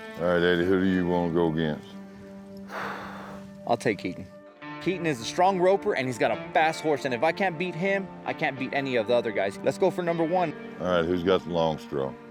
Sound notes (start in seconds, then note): 2.6 exhales